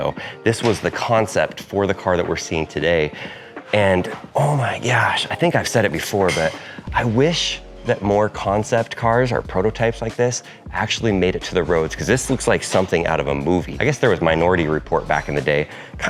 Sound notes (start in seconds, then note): none